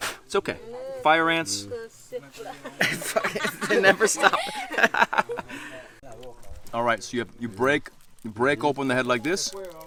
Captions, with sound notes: It's okay. Fire ants. (group laughing) They never stop. (laughing) Alright, so you break... You break open the head like this.